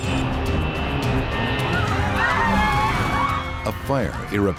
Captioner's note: screaming